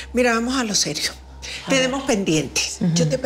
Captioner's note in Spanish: none